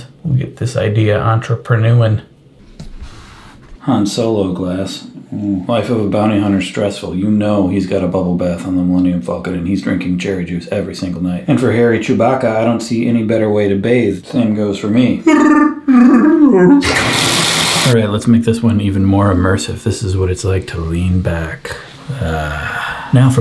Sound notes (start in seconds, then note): 15.2 Chewbacca noises; 16.4 water running